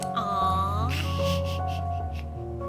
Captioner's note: laughs